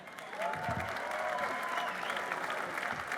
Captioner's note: applause